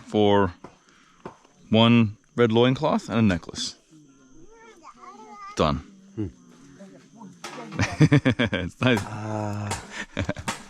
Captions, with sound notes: for one red loin cloth and a necklace. Done. (chuckles) It's nice.